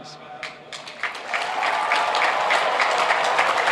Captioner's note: applauding